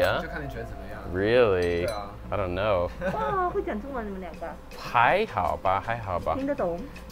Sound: chuckles

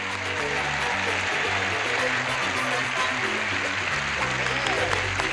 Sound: applause

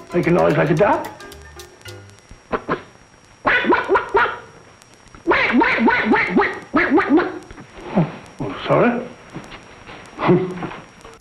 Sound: duck noises

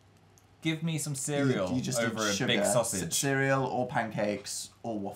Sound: none

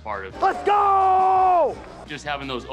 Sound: yelling

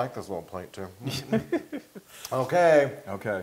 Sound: laugh

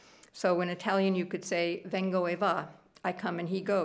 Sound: speaking italian

